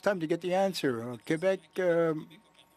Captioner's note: speaking french